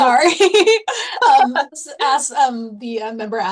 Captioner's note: laughter